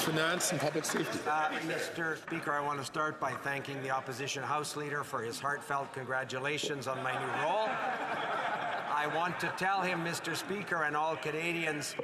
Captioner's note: some Applause